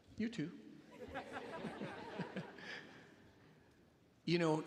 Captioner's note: attendees laughing